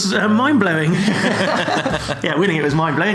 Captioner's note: laughs